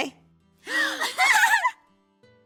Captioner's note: both giggling